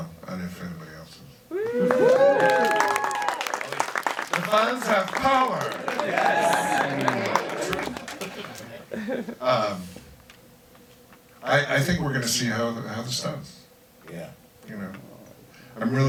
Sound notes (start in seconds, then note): 1.5 crowd applauds; 6.2 crowd laughs and cheers